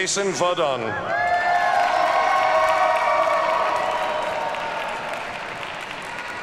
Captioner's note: audience cheers and applauds